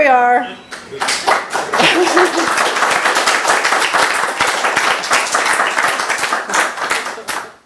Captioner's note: applause